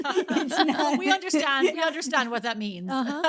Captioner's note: both laughing